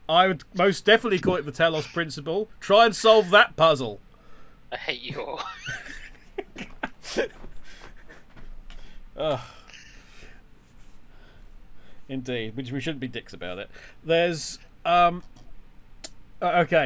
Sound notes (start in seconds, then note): 4.9 laughing